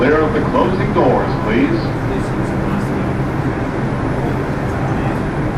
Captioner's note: automated Voice; people chattering